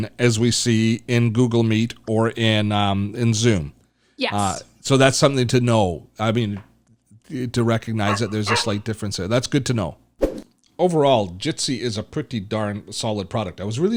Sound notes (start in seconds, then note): 8.0 dog barks